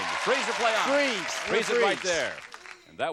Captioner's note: applause